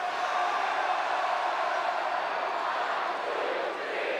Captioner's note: audience cheering